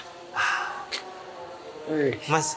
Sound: sigh

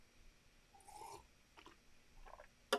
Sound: slurps

